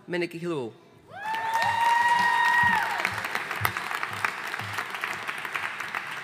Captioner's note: audience cheering and applauding